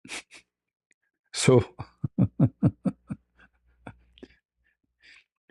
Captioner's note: laughter